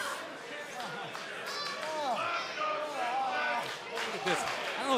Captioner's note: crowd cheering